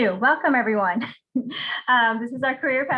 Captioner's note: laughing